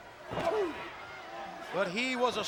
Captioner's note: wrestlers grunting